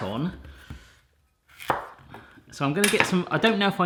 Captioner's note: chopping